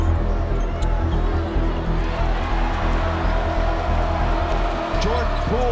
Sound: audience cheers

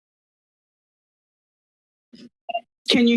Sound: silence

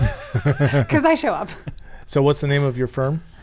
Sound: everyone laughing

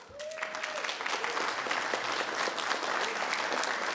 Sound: people clapping

